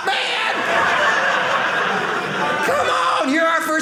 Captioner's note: audience laughing